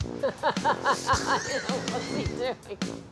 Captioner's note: upbeat music; Victoria laughs